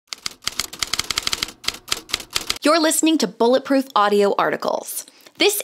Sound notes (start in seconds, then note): 0.1 typewriter keys click